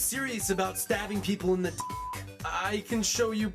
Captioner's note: beep